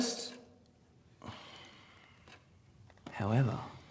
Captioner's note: Ron sighs